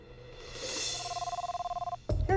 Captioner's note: phone rings